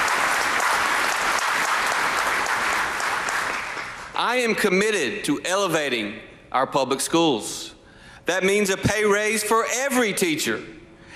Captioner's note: applause